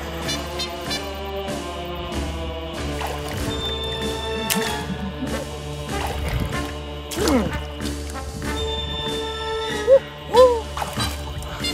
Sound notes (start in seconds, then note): 4.2 water splashes; 8.9 underwater groans